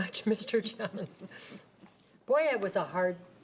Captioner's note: laughing